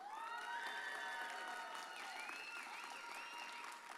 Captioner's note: audience cheers